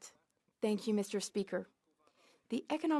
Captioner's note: speaking French